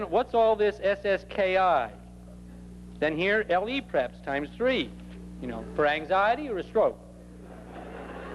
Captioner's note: laughter